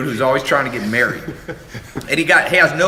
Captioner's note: laughter